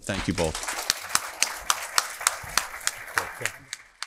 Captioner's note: applause